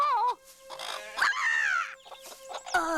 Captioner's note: clucking loudly